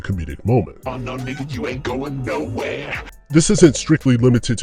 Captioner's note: screaming